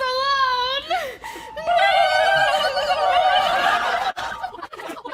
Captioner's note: alien noises